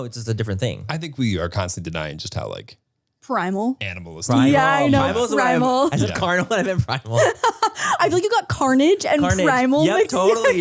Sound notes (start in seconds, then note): 7.4 laugh